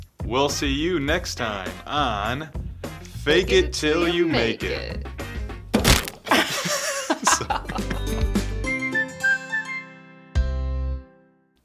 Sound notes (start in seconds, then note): 5.8 crunching; 6.3 laughing